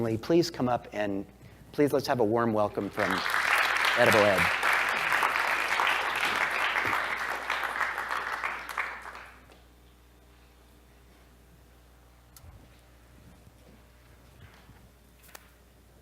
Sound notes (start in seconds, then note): 4.9 applause